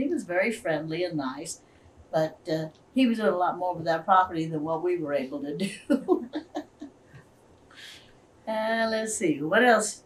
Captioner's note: laughs